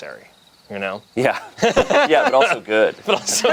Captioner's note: laughs